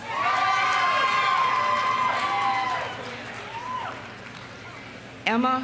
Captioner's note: audience cheering; audience applauding